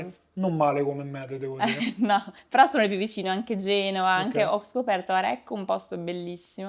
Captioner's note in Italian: risate